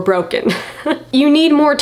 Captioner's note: chuckles